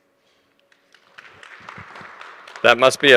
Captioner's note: audience applauding